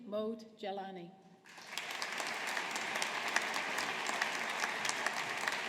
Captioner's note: audience applauding